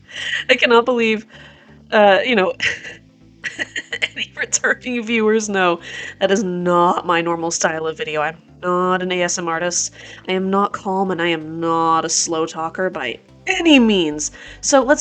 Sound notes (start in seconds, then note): 0.1 upbeat background music begins; 3.4 laughs